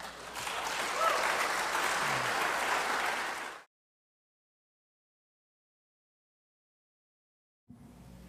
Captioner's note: applause